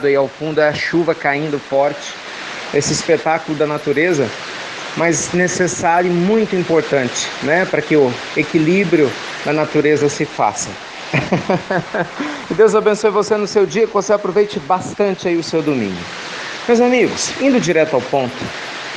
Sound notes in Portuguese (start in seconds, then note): 11.1 Risos